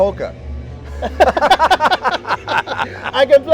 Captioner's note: laughter